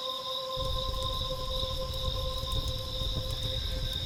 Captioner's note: fire crackling